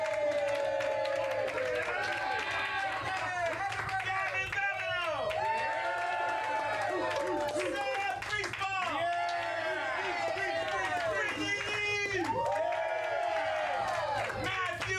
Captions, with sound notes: - LET'S THANK OUR PANEL. ROSIE ROSENKRANZ! [AUDIENCE CHEERING] - GAVIN BABINEAUX! [AUDIENCE CHEERING] - SAM GRIESBAUM! [AUDIENCE CHEERING] - BRITTANY LEIGH! [AUDIENCE CHEERING]